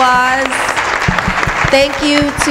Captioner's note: applause